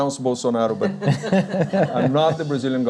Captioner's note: laughs